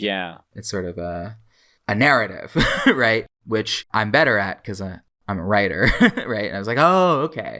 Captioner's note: laughs